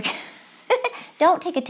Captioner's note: laughs